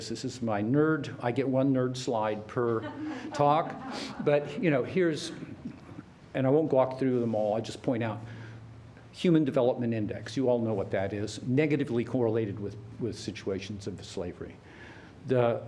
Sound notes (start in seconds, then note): 2.6 laughter